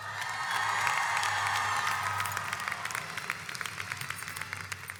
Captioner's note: audience applauds